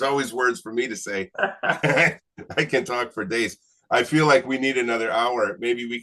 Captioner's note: laughing; laughs